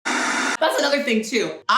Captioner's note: static effect